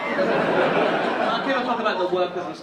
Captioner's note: audience laughing